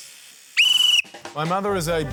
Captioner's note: blows whistle